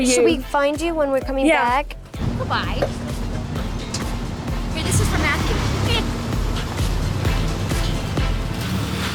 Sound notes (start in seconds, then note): 3.6 car engine roaring